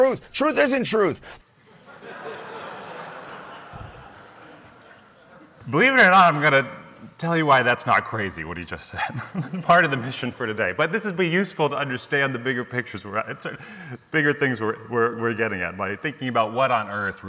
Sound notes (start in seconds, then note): 1.6 audience laughs